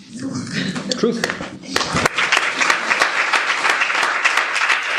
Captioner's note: applause